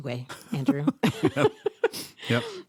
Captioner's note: laughter